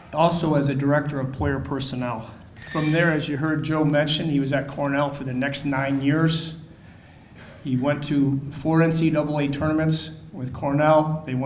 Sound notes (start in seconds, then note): none